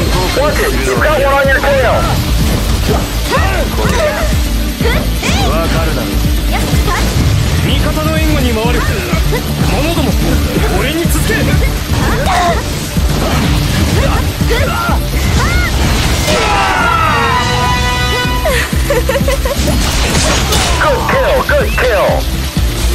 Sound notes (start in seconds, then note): 16.1 KO Scream; 18.0 laughs